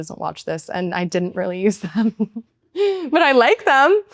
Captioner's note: laughs